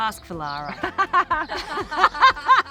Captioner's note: laughing